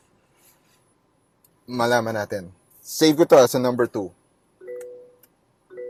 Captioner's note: beeps